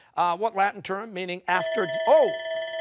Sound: bell ringing

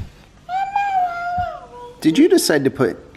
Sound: babbles

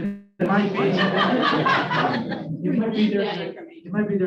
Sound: laughter

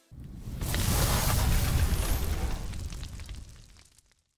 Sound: loud burning noise

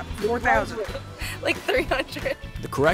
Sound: laughing

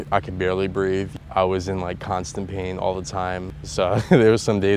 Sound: laughs

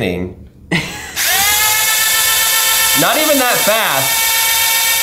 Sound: buzzing

